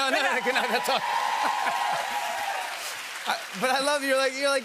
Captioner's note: cheers and applause